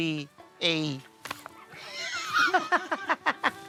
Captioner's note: turkey snapping; laughing